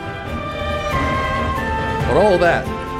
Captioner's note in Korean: 그레욜의 포효